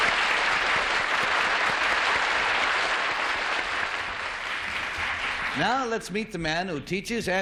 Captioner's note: applause